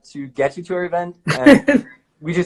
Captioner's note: laughs